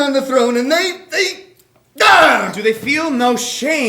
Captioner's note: screams